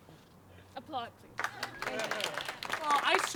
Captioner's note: applause